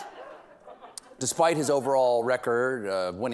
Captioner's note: laughter